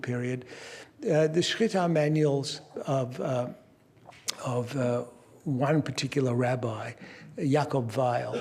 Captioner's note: non-english